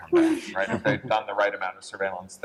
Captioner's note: laughter